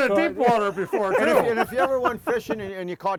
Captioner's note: chuckling